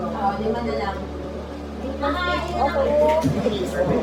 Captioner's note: background chatter